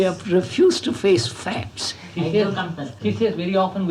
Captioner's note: laughs